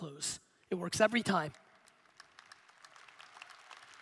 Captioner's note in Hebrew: הקהל מוחא כפיים